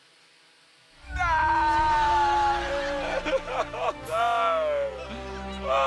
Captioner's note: sobs